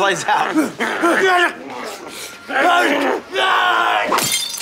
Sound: grunting, groaning

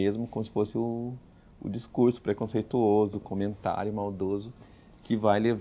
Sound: in portuguese

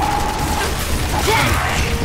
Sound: gunfire

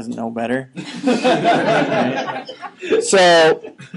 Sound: students laughing

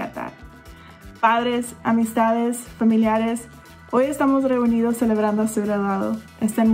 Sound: speaks in foreign language

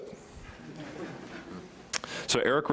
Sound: chuckling

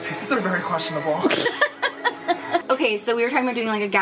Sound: laughing

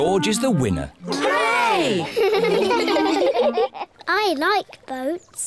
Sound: giggle

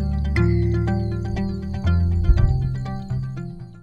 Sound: frogs calling; thunder

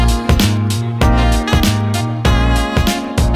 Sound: dink

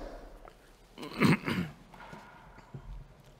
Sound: clearing throat

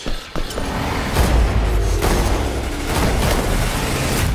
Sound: gunshots

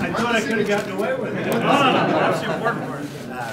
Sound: laughter

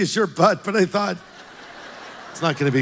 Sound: congregation laughs

